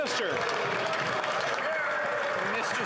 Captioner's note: some Applause